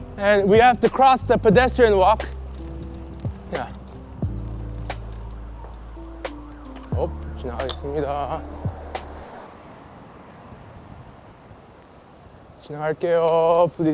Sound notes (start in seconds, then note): 7.4 speaking polite Korean; 12.6 speaking Korean